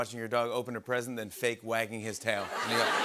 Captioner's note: laughter